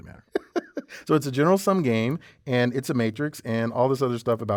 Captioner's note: laugh